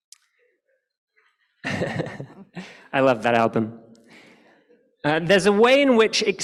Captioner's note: laughs